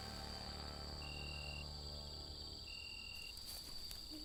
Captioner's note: tense music; insects chirping